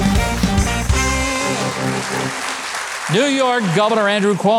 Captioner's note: audience applauds